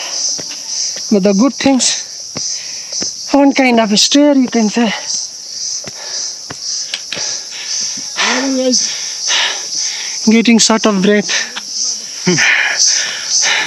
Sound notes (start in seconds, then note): 5.8 deep Breathing